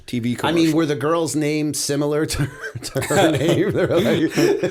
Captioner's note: chuckle